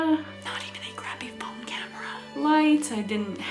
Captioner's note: whispering